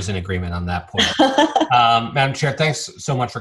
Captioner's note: Chairwoman McDaniel laughs